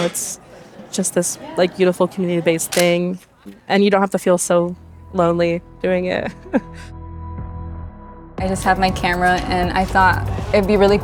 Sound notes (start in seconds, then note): 2.7 shutter clicks; 6.2 giggles